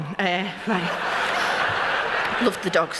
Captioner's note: laughter